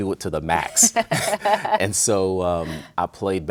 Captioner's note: both laughing